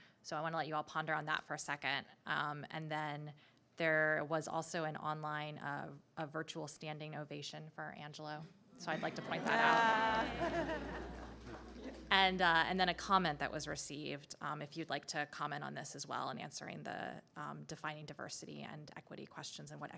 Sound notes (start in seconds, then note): 8.9 people chuckling